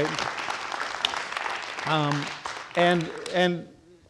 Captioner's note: audience applauding